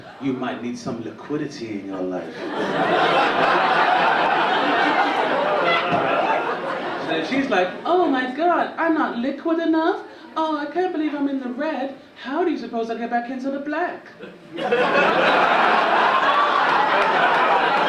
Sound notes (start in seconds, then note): 2.2 audience laughing; 14.2 audience laughing